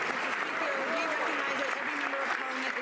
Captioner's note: some Applause